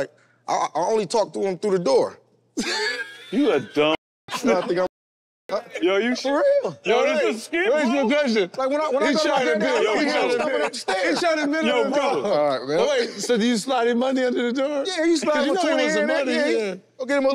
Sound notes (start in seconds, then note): 2.6 ?? laughs; 2.6 haha